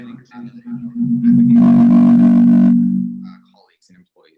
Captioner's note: audio distorts